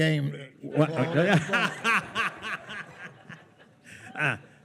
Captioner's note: attendees laughing